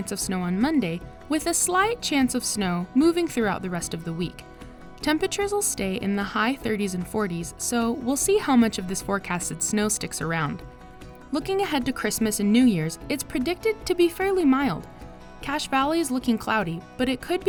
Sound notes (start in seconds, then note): none